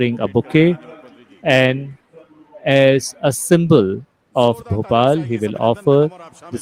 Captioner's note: laughs